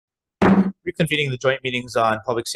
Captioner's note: gavel thudding